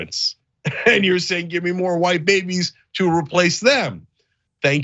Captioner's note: laugh